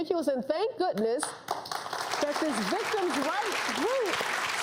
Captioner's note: applause